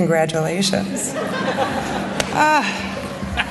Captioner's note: laughter